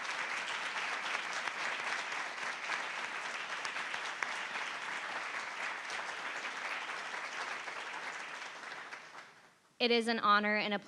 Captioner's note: applause